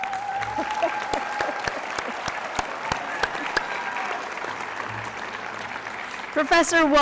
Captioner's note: applause